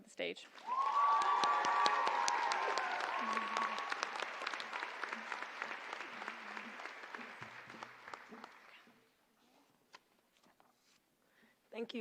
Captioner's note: applause